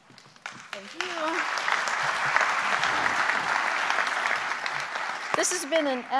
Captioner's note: applause